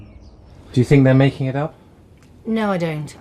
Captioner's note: voiceover